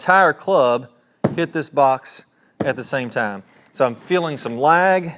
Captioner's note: club thuds